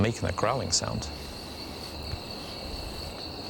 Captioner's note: crickets chirping